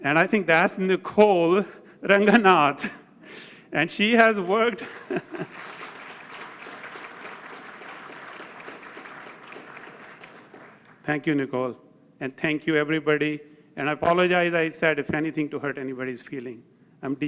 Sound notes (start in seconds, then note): 4.3 applause